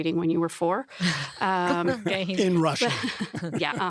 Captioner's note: laughs